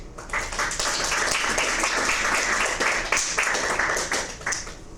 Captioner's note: audience applauds